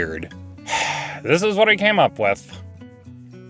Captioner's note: sigh